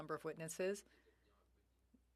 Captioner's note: speaking French